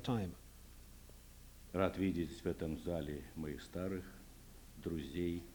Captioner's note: non-english speech